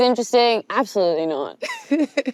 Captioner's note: laughs